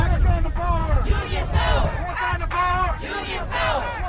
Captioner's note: chanting